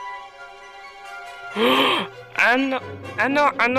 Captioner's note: gasp